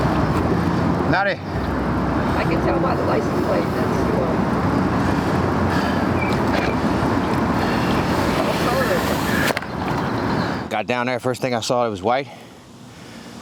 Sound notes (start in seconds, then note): 4.8 traffic droning